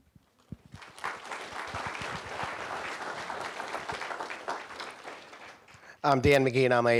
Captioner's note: applause